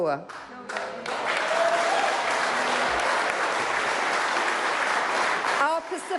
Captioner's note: applause